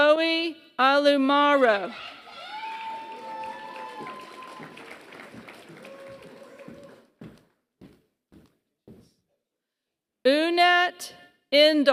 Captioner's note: applause